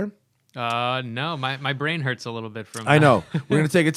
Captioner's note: laughter